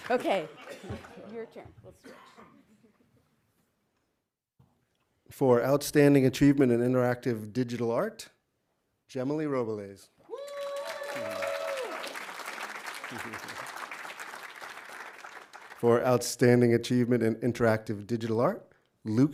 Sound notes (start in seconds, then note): 10.2 audience cheering; 10.3 audience applauding